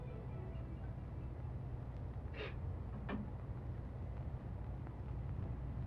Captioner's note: muffled cry